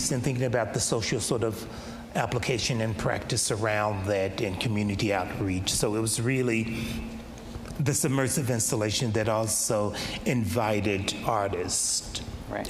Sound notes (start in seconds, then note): none